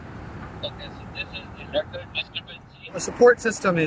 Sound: male voice responds from cellphone

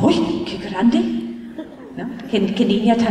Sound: laughter

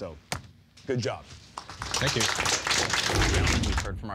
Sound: applause

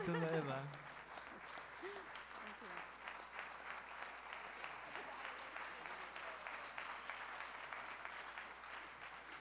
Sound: applause

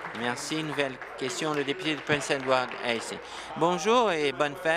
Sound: applause

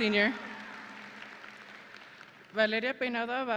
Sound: audience and graduates applauding

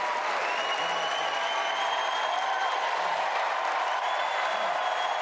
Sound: cheers and applause

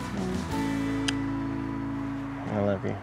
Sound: smooch

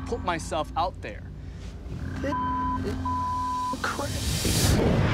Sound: beeping; dramatic music

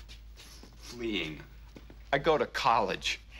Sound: <i> sighs</i>

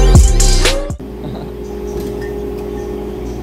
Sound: chuckles

